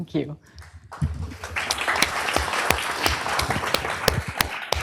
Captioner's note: applause